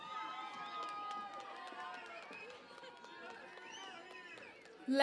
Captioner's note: cheering and Applause